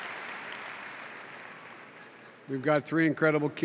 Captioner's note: applause